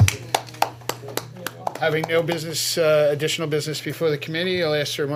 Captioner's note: applause